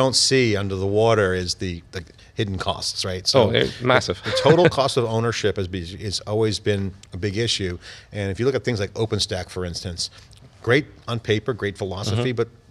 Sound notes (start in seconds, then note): 4.1 laughs